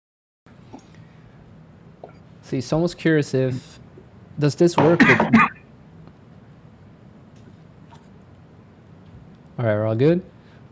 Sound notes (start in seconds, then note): 4.8 coughing